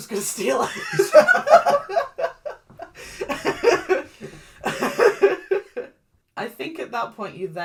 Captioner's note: laughs